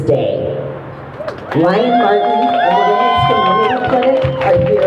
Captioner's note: crowd cheers